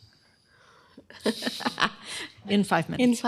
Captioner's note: laughter